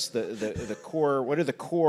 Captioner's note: laughs